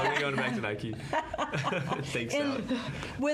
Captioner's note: all laughing